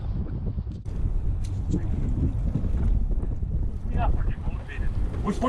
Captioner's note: wind Blowing